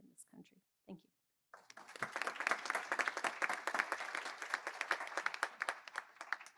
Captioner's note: applause